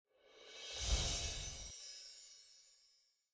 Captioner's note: whooshing